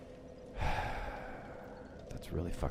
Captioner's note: irritated sigh